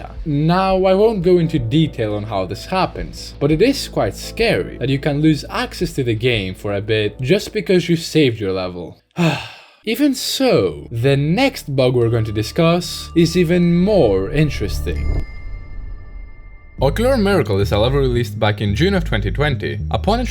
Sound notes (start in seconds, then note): 9.1 sigh